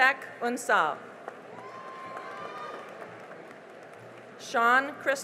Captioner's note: cheering and applause